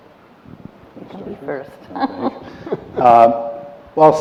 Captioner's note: laughter